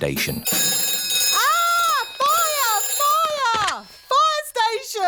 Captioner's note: rings